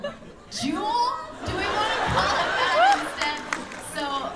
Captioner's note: laughter